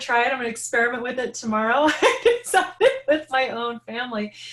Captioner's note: laughing